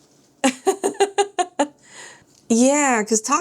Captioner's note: laughs